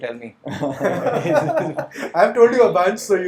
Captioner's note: laughs